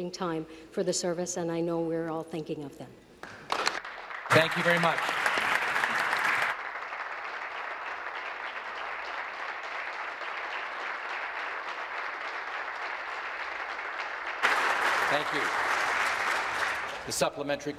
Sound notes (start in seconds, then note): 6.8 applause